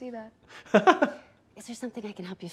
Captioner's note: laughs